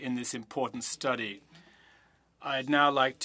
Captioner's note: speaking French